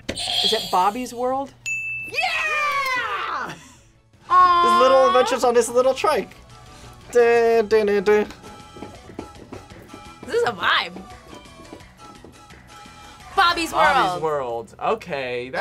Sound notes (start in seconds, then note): 0.1 buzzer rings; 1.6 bell rings